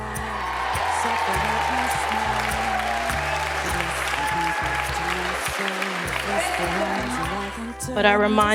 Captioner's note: audience cheering